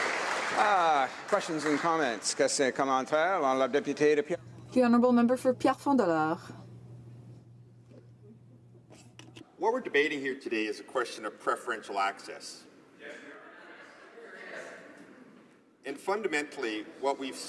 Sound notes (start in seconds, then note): 3.9 applause; 11.1 speaking French